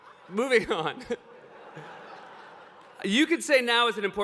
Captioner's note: laughter